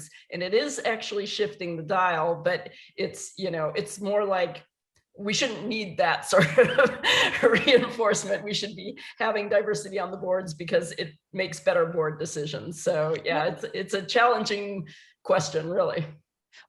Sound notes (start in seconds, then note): 7.7 laughs